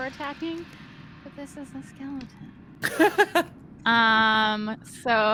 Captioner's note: Cornette laughs